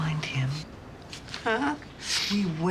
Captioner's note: voice breaking